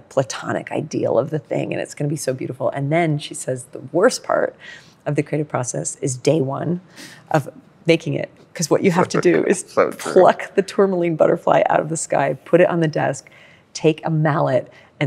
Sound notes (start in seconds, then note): 8.9 laughs